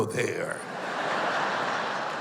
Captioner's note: laughter